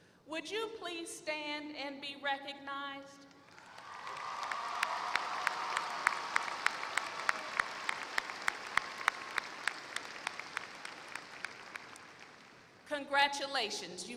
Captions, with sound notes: Would you please stand and be recognized. [APPLAUSE] Congratulations.